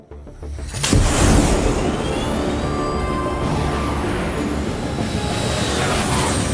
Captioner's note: dramatic music; fighter jet whooshes